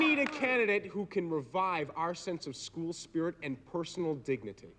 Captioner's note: audience cheering